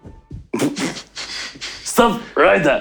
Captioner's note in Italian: Risate